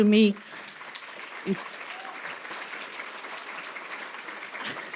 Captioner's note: applause